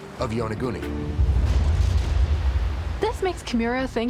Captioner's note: wave crashing